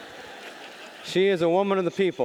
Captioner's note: audience laughing